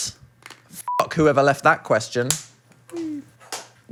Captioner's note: beep